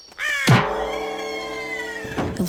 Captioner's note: bird collapses and screeches